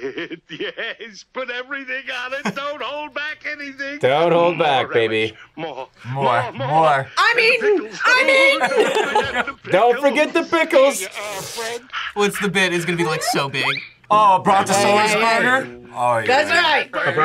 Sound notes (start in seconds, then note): 8.2 both laugh; 11.0 slurps